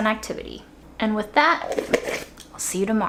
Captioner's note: lid scraping